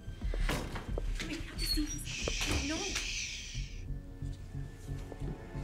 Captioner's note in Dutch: mompelend